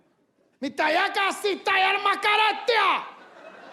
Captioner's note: speaking in Arabic